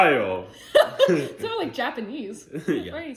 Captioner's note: laughs